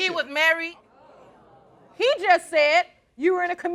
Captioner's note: crowd oohing